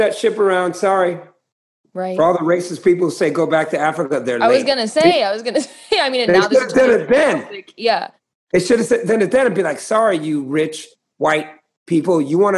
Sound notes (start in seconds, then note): 5.5 laughter